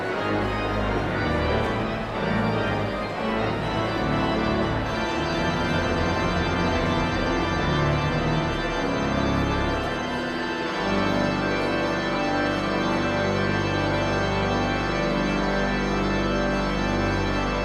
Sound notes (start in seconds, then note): 1.3 audience chatter continues; 1.3 sound of organ tuning; 12.6 sound of organ tuning